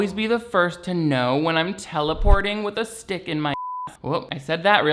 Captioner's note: beeps